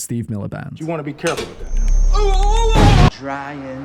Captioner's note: the most boyle pain sound ever